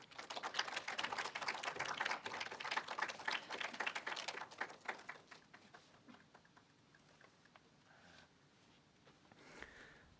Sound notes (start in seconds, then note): 0.0 group applauds